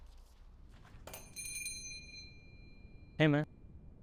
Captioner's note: door bell rings